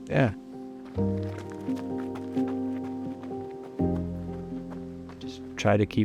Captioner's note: ground crunching